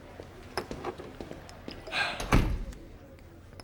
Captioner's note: sighs